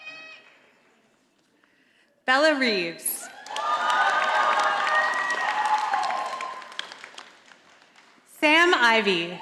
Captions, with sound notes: Bella Reeves. (audience applauding) Sam Ivey.